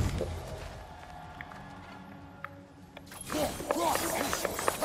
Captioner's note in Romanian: Aplauze